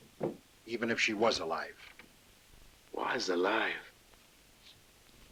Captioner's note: none